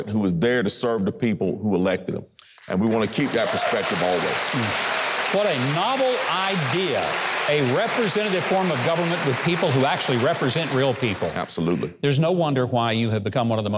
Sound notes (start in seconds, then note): 4.3 audience applauding